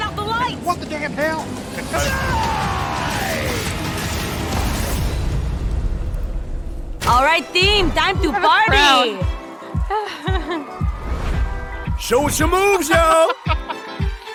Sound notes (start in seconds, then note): 0.0 engine revving; 8.6 engine revving